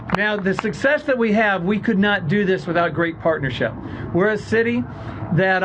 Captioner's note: applause